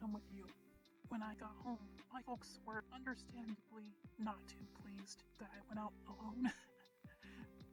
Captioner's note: chuckle